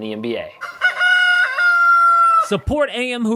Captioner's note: rooster call